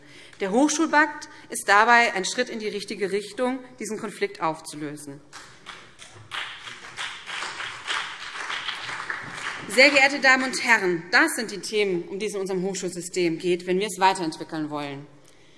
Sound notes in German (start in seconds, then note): 5.3 Beifall BÜNDNIS 90/DIE GRÜNEN und CDU